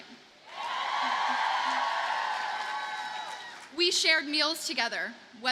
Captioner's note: audience cheers and applauds